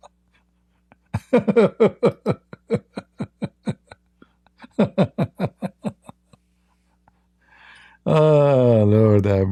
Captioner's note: Ketawa